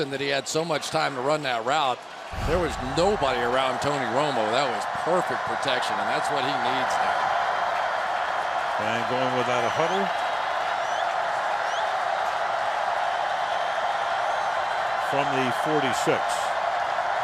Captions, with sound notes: But the reason that he had so much time to run that route, there was nobody around Tony Romo. That was perfect protection. And that's what he needs now. [cheering] And going without a huddle. From the 46.